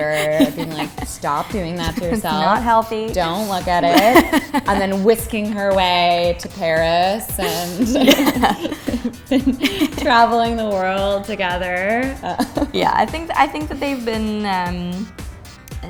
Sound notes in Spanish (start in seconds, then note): 0.0 se ríe; 3.2 se ríe; 7.4 Ambos se ríen